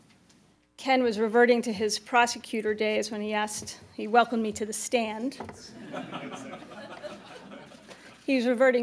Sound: laughter

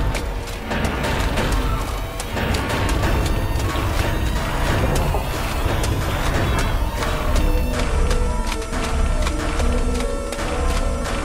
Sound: thin, nauseating buzzing fades in

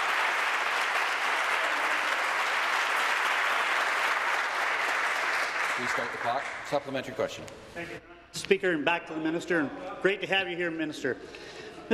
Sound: applause

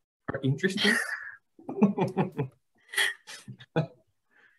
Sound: laugh

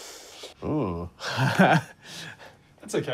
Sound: laughs

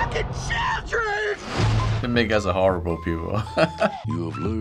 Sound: chuckles

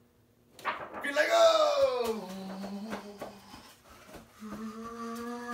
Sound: imitates car sound

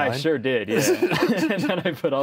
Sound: both laugh

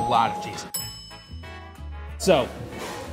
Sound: bell dings

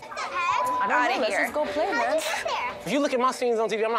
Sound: beep

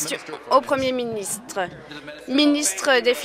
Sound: applause

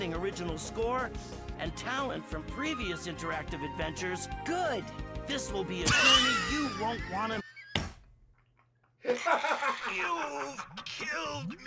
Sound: laughs

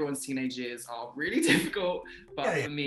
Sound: laughing

